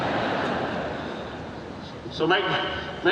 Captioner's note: audience laughing